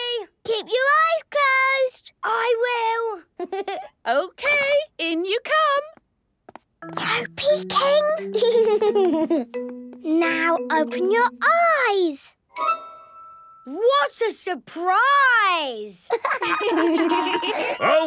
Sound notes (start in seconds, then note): 3.4 Danny laughing; 6.5 whispering; 8.3 Danny giggling; 16.0 laughter